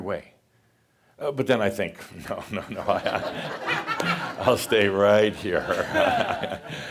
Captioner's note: laughter; chuckles